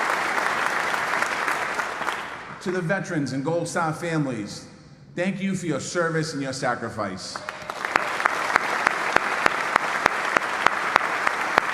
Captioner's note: applause